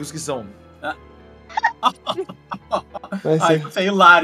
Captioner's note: laughs